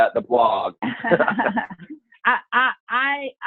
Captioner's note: laughing